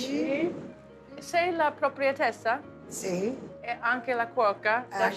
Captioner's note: speaking Italian